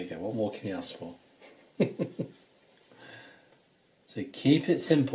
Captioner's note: laughs